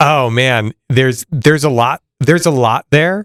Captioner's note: laughing